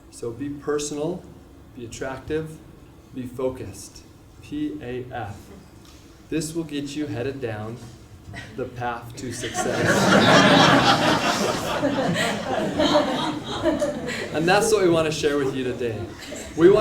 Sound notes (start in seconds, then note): 9.3 laugh